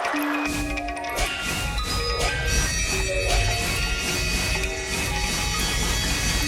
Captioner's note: pensive music continues; air whooshing